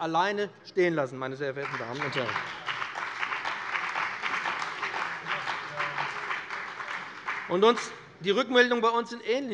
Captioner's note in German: Beifall bei dem BÜNDNIS 90/DIE GRÜNEN und der CDU